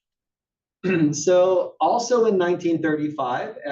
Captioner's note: cough